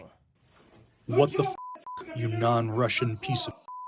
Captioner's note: through translator